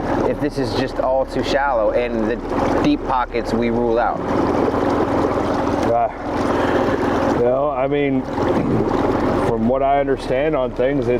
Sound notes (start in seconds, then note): 5.5 engine idling; 5.5 river babbling